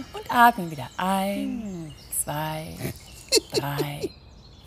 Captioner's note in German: lacht